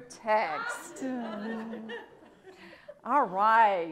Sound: audience laughs

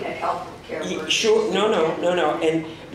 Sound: faintly speaking

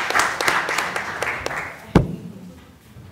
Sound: applause

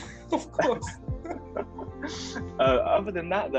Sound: both chuckling

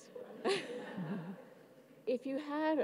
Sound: audience laughs

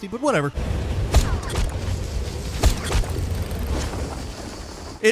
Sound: grappling hook whooshing

